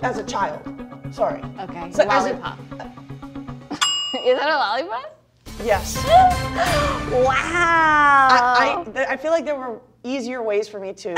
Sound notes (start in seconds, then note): 3.7 bell dings; 5.4 winning music